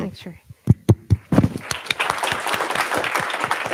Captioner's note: applause